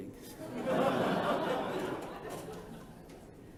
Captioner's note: laughter